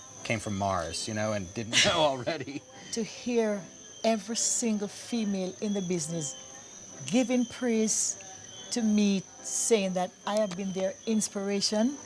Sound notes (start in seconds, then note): 1.7 laughter